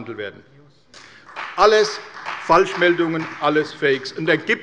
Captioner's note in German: Beifall bei der CDU und dem BÜNDNIS 90/DIE GRÜNEN